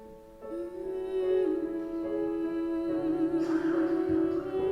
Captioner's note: gentle piano music; humming